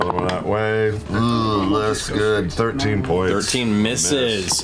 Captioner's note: groans